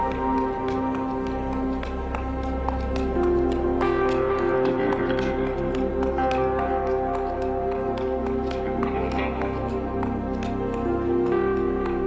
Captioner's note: cheers and applause